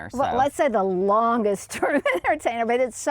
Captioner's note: laughs